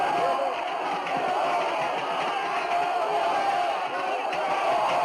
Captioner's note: all shouting